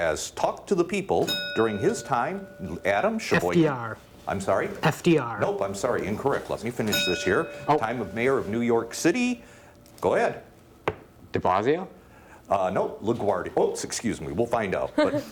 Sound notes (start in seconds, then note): 1.2 bell dinging